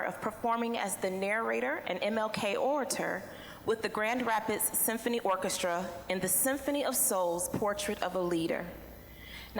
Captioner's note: none